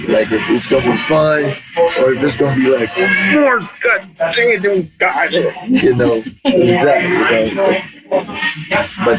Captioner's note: angry choking sounds